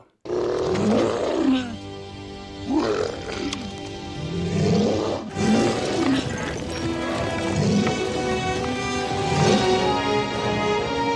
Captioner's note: Blurrg roar & music